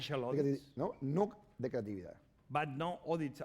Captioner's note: speaking spanish